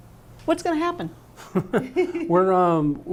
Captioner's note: laughter